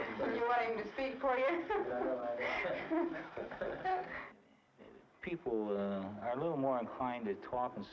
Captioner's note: laughs